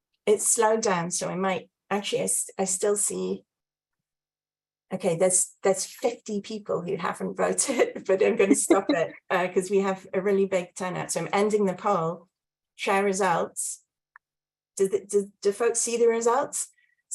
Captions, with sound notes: It's slowed down. So I might actually, I still see, okay, there's 50 people who haven't voted, (chuckles) but I'm gonna stop it 'cause we have a really big turnout. So I'm ending the poll share results. Do folks see the results?